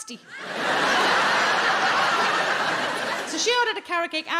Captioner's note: audience laughing